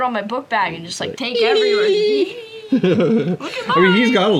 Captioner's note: cooing